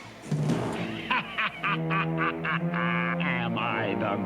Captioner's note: laughing